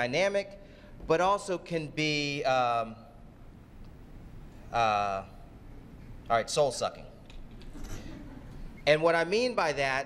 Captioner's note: laughter